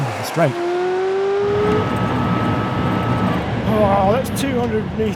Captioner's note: engine revving